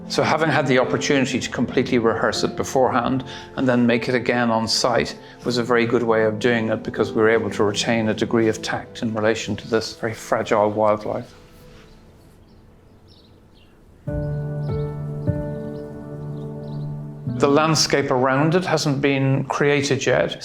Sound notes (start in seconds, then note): 14.2 birds chirping; 14.2 gentle music